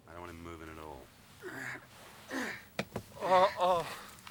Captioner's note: continues Moaning; grunting